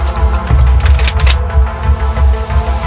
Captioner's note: cocks Gun